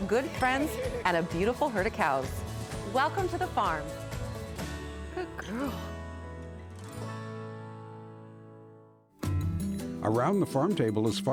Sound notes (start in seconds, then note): 4.7 affectionately to cow